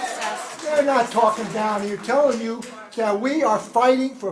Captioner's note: applause